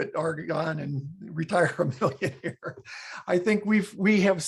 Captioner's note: laughs